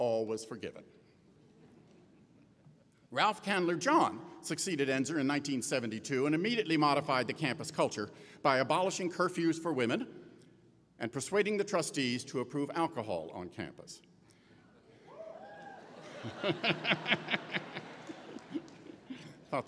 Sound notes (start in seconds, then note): 15.0 cheering; 15.9 laughing